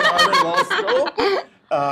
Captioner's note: laughter